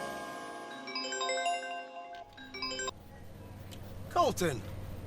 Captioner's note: phone ringing